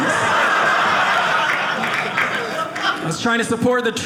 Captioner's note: audience laughing